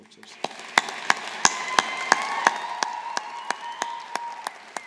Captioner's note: graduates applauding